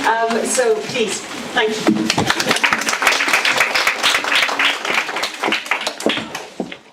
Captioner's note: audience applause